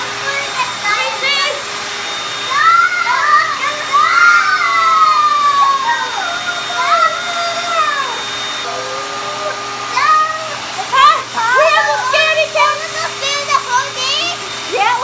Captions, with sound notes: (girls screaming) We have some scaredy-cats. - I'm afraid to hold it.